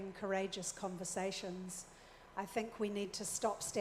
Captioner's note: none